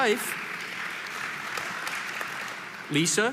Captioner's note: audience applauding